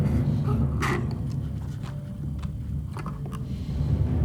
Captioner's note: dramatic music; Jim sipping